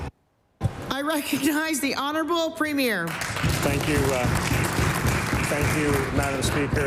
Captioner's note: applause